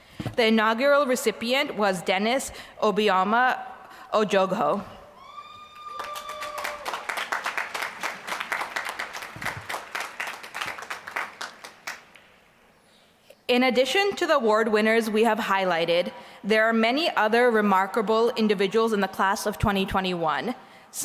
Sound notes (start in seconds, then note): 5.7 applause